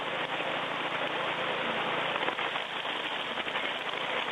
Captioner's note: washing gravel sounds